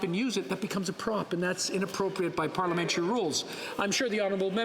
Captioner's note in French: voix de l'interprète